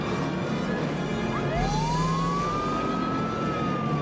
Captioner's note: siren wailing